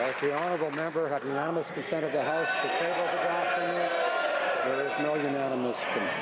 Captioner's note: applause